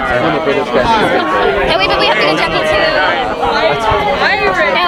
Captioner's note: people chattering